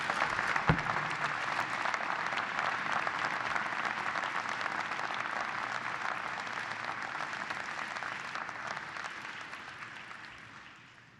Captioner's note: applause